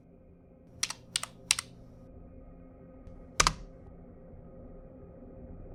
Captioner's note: mouse clicking; keyboard clacking